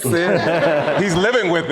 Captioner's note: audience laughing